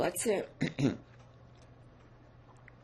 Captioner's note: coughing